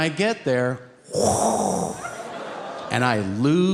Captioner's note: Tom making whooshing noise